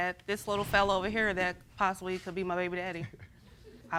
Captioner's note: chuckling